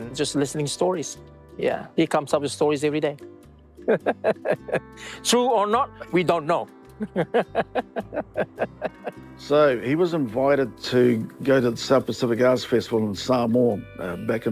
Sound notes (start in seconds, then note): 3.9 laughs; 7.0 chuckles